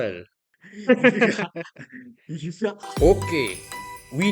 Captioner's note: laugh